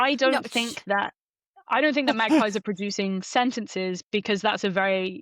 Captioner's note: laughs